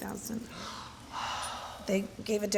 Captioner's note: sighs